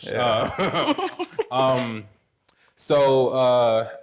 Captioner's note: laughs; laughing